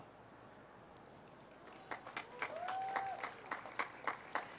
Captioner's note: cheers, applause